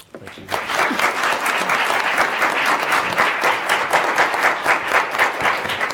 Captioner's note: audience applauding